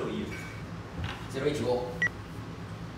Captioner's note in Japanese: 早口